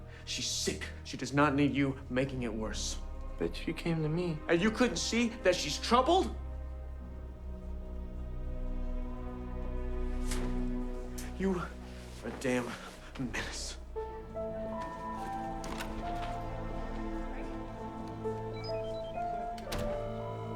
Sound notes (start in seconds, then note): 7.4 gentle tense music; 15.5 door latch clicks; 18.1 mystical music